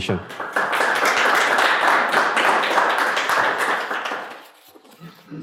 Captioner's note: audience applause